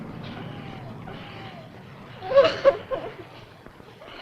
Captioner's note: Lee sobbing